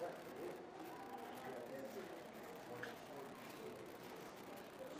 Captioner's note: visitors chattering indistinctly